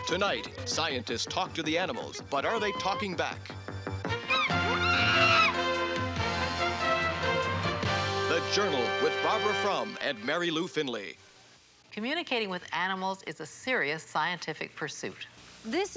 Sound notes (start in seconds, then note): 3.7 dramatic music; 4.2 chimp shrieking